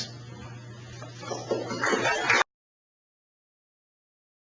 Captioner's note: audience applauding